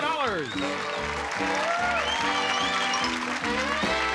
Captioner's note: applause